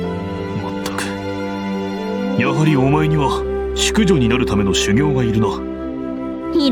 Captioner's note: sigh